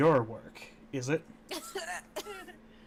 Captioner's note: chokes a little; laughing